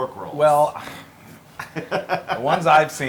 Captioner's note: laugh